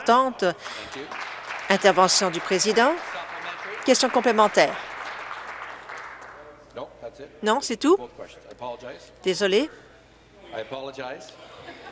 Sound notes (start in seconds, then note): 7.1 applause